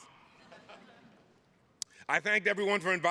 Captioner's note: chuckles